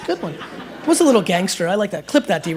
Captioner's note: laughter